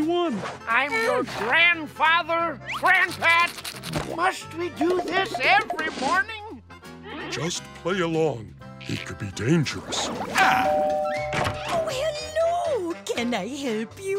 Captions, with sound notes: I'm your grandfather, GrandPat! Must we do this every morning? Just play along. He could be dangerous. [doorbell ringing] Oh, hello. Can I help you?